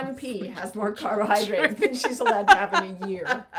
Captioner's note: laughing